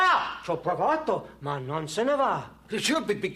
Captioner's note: speaking foreign language